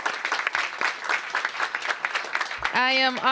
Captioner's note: applause